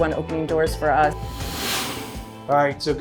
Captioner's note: swoosh